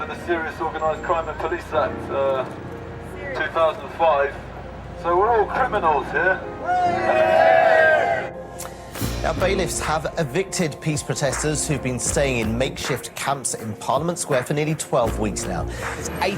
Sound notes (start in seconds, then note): 6.6 cheering